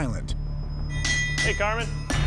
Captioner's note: metal clangs